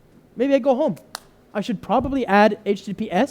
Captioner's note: clap